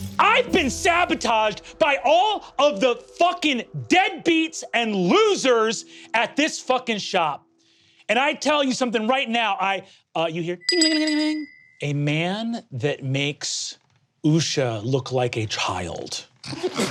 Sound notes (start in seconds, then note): 10.5 mimics bell ringing; 16.6 players laughing